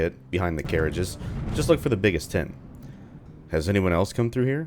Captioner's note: thunder